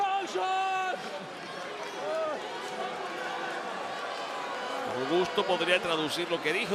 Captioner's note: applause